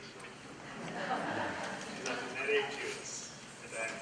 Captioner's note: laughter; speaks in foreign language